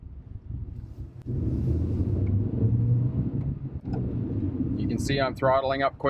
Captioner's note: engine roaring loudly